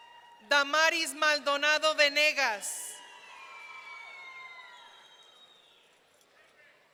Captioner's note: audience cheering